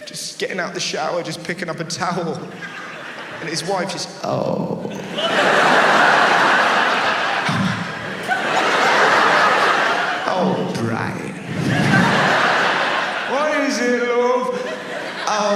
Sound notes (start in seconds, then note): 5.6 audience laughs; 8.0 laughs; 12.0 audience laughs